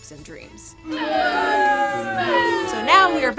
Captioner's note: audience booing